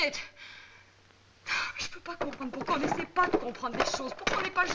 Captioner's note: speaking french